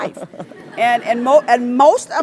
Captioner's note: laugh